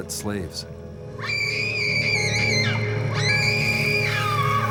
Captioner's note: woman screaming